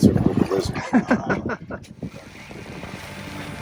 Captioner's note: man laughing; gentle music